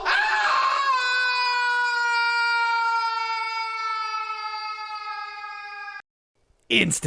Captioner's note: aaaahhhhh